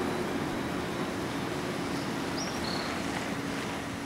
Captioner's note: crickets chirping, birds chirping